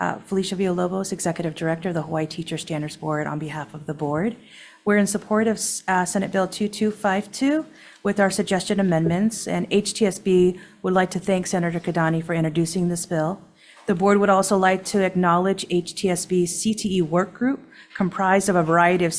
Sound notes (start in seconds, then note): none